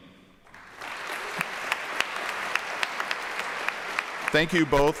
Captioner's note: applause